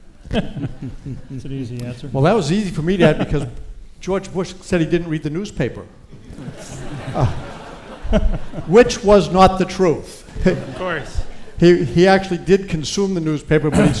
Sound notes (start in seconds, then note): 0.1 speakers chuckle; 6.1 audience laughs